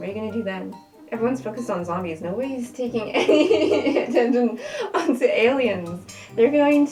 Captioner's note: laughing